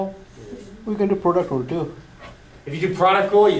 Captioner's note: voiceover